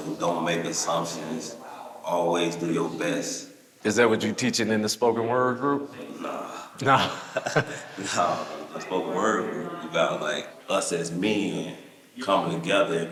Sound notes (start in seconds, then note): 6.8 people laughing